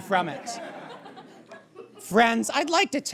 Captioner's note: audience chuckles